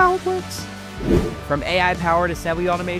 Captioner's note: air whooshing